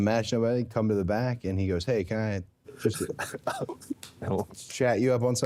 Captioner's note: Jey laughing